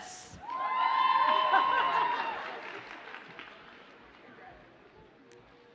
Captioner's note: audience cheers and applauds